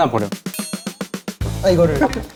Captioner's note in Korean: 긁적